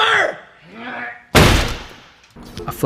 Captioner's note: loud thud